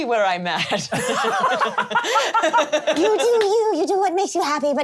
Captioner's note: laughs